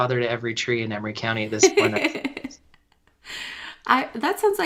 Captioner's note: laughter